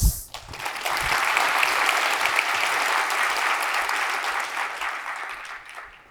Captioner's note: applause